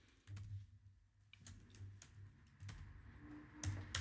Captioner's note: typing